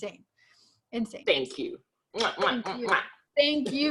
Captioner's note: lips smacking